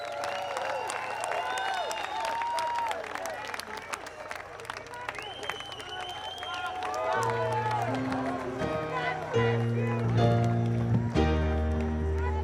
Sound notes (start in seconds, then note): 0.0 applause